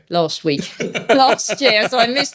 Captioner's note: laughing